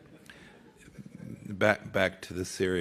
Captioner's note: laughter